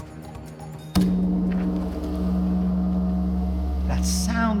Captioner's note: bell rings deeply